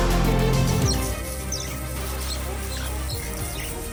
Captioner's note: squeaking, chirping